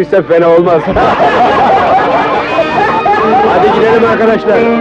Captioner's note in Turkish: Kahkahalar